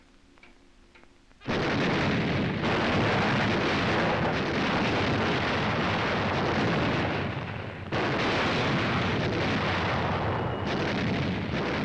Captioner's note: sounds of explosions